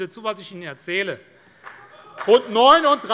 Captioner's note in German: Beifall CDU